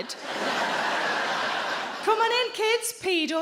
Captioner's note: audience laughing